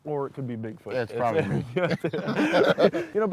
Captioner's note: laughing